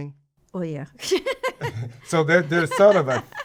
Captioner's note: laughs